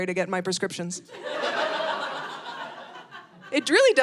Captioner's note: audience laughing